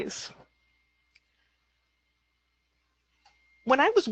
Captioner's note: silence